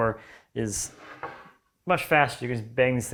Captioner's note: plank on desk scraping